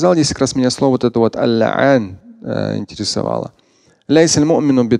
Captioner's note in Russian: говорит на арабском